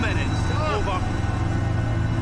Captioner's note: yells